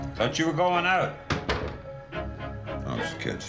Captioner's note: door clicks